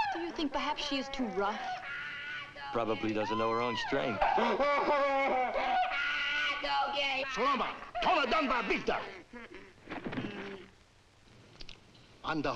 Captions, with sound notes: - Do you think perhaps, she is too rough? - Probably doesn't know her own strength. (Sammy screaming) - Ah! Dukie! - Saloma! (Rakos speaks in foreign language)